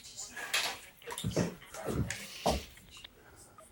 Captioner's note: footsteps thudding